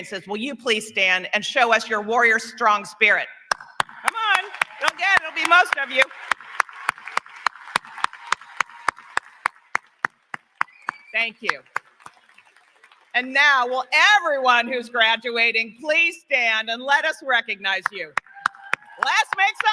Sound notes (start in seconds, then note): 3.5 applause; 4.1 cheering